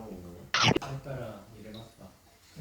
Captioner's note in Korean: 꿀-꺽